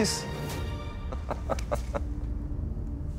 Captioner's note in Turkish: Gülüyor